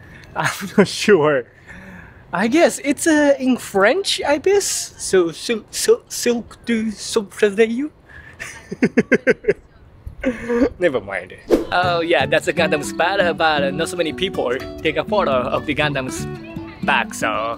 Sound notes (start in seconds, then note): 5.5 struggles to pronounce in french; 8.4 laughs